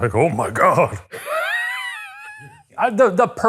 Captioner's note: laughing